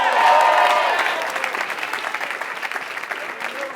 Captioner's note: applause